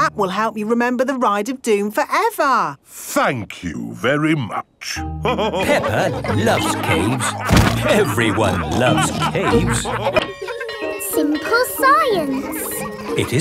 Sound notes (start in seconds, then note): 5.2 all laughing; 10.1 bell tolling; 10.1 children laughing